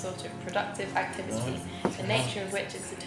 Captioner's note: murmuring sleepily